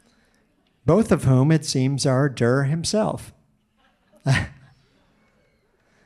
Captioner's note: chuckles